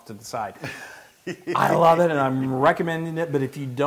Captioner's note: laugh